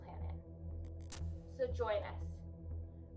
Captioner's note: static buzzing